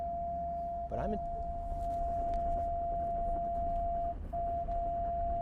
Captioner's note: car instruments beeping